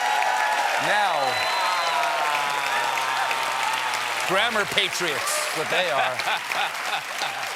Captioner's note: applause